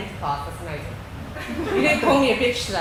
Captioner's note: laughing